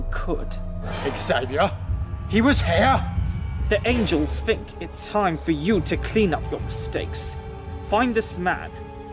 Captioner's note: shocked